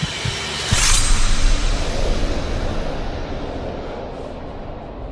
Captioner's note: A loud burst of noise